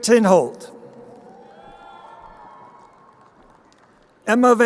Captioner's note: crowd cheering